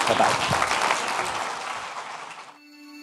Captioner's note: audience clapping